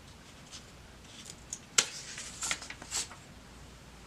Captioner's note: page turning